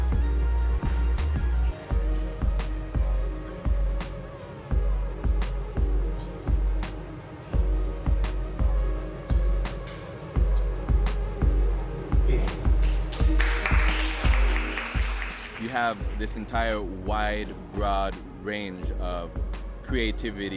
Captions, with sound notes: (applause) - You have this entire wide, broad range of creativity,